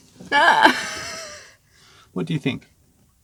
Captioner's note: laughing